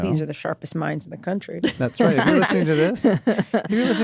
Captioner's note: laughter